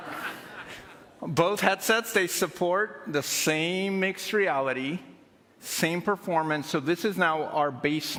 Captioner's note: laughter